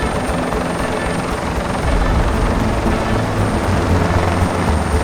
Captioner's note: helicopter whirring continues